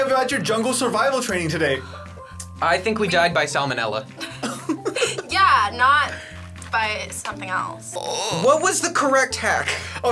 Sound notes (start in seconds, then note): 4.2 laughs